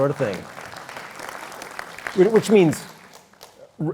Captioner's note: applause